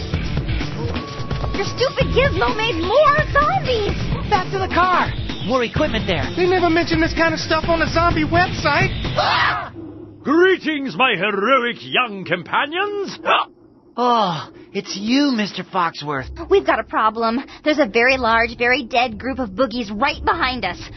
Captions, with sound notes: Your stupid gizmo made more zombies! Back to the car! We'll equip there. We never mentioned this kind of stuff on the zombie website! (the trio scream) Greetings, my heroic young companions! (hiccup) (sighs) It's you, Mr. Foxworth. We've got a problem. There's a very large, very dead group of boogies right behind us!